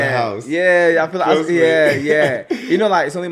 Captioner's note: laughs